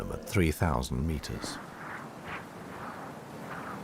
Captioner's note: wind blowing